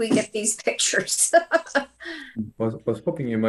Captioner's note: chuckles